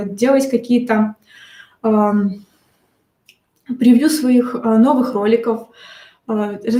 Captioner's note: щелчок пальцами